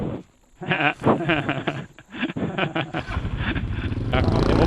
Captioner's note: laughing